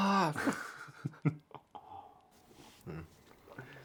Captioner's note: laughter